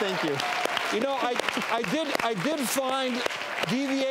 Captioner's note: audience clapping